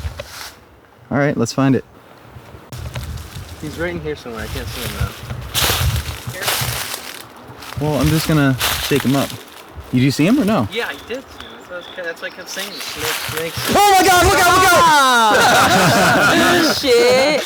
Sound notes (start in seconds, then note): 13.6 Victor screaming; 13.7 laughing